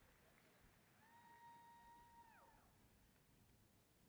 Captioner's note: applause